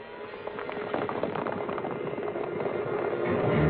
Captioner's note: horses galloping